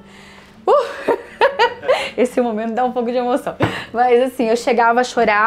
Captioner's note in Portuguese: risada